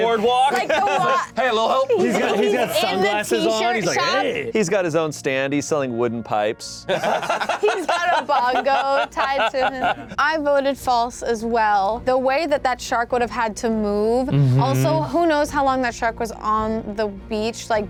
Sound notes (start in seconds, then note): 6.9 laughs